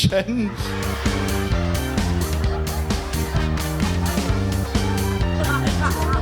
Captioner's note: upbeat music continues; audience laughs